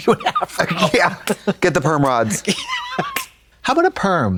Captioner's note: Katya wheezes